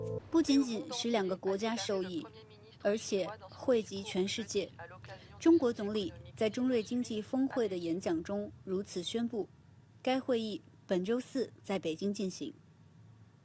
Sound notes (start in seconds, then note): 5.2 French